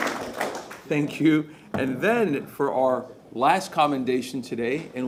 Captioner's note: applause